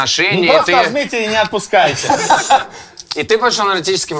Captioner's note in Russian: Смех